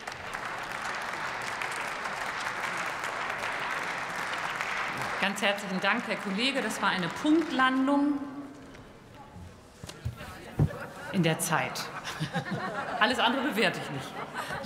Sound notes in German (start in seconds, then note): 10.6 Heiterkeit bei der SPD